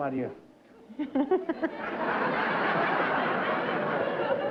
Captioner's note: laughter